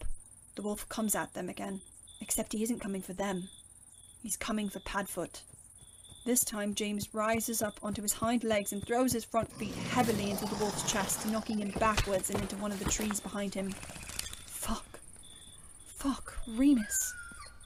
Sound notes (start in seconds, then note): 9.4 wolf growling